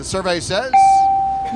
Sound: bell

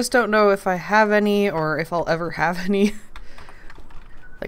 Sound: laughs

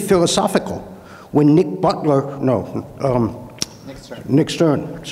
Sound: clicks tongue

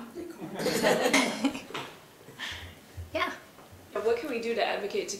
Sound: laugh

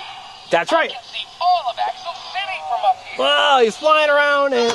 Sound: voiceover

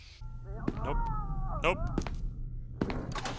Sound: can hear faint screaming

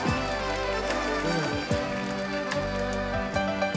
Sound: audience cheers

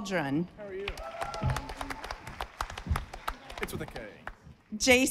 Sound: audience applauding

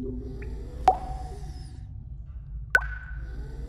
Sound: bear snoring

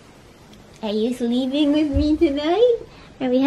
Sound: baby voice

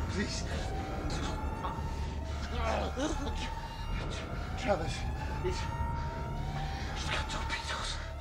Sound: groaning

